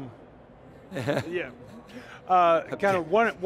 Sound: laughs

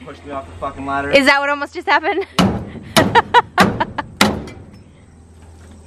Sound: laughs

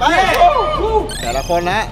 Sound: yelling

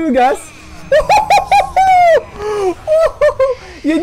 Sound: hollering

